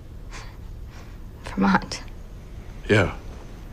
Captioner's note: scoffs